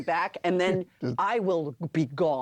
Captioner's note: laughs